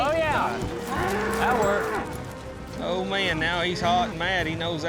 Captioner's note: says sarcastically